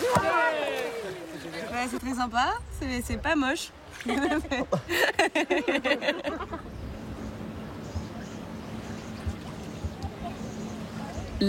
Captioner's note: laughs